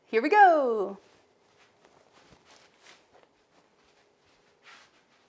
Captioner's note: fabric scratching